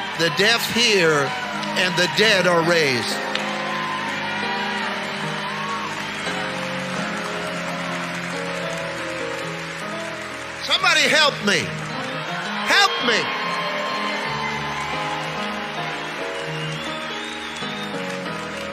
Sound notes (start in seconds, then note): 3.3 congregation cheering; 5.7 gentle piano music; 13.8 congregation cheering